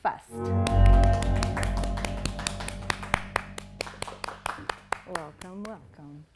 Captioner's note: ominous music; people clapping